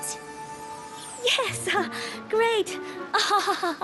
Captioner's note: chuckling; chuckles nervously